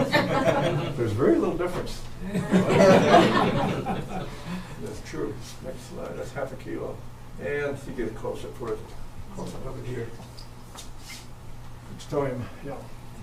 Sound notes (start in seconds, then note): 0.0 audience chuckling; 2.3 audience laughs again